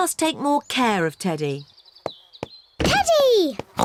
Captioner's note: oink